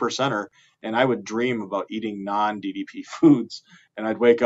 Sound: chuckling

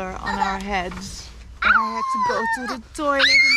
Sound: howling

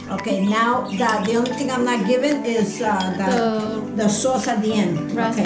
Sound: chattering

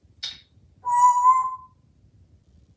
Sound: whistle

